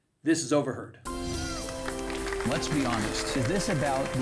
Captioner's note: audience clapping